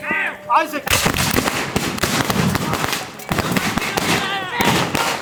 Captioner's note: gun banging